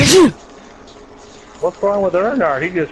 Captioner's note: sneeze